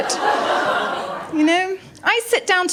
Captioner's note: laughter